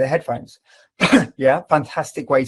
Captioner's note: coughs